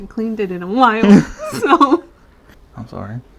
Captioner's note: laugh